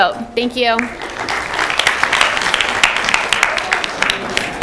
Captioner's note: applause